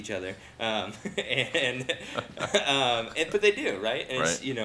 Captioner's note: hosts chuckle